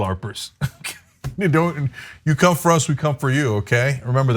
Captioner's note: laugh